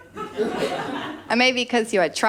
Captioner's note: laughter